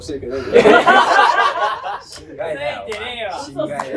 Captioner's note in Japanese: 笑い声